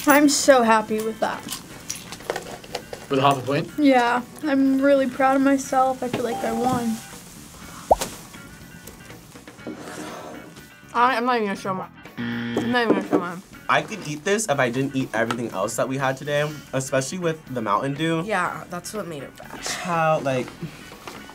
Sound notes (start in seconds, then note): 6.3 bell rings; 12.2 buzzer rings